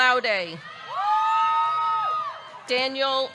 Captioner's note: audience cheering